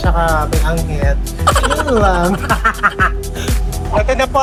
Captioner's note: laughing; laughing SFX